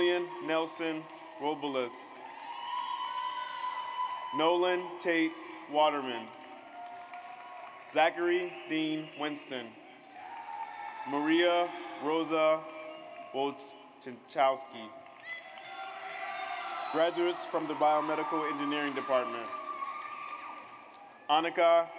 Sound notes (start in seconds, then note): 2.5 audience cheers; 6.0 audience applauds; 10.0 audience cheers; 15.2 audience cheers